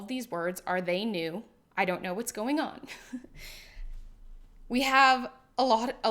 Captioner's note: chuckles